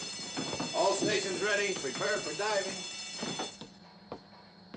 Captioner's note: bell ringing